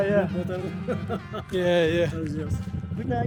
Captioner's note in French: Rires